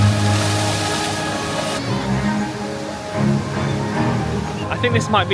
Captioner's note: water whooshing continues; bright music continues